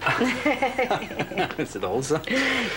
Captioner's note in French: Rires